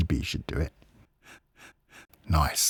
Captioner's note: quiet breath